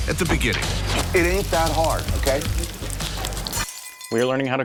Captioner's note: sizzling